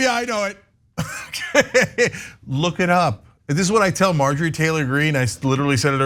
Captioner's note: laugh